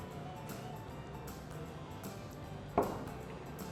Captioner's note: none